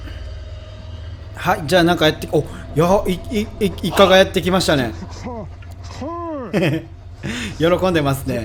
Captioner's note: haha